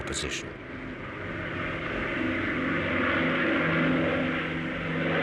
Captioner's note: plane roaring